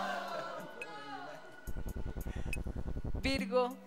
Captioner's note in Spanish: Exclamaciones